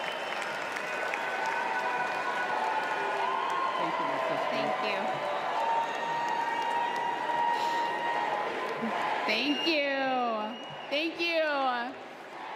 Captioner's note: applause